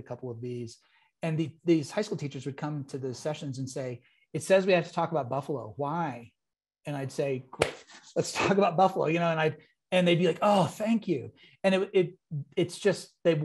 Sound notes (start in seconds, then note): 7.5 claps hands